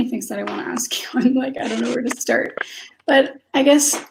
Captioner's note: laughs